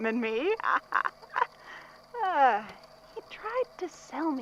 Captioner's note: laughs